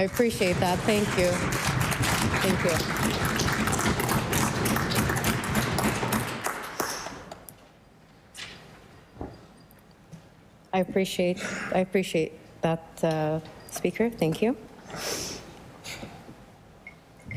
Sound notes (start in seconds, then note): 5.0 applause